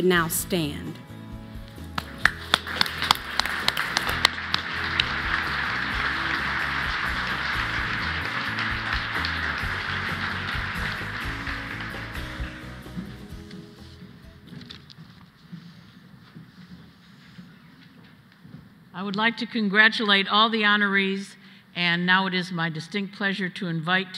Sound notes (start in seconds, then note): 9.6 applause